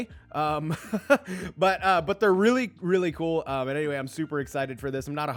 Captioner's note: laughs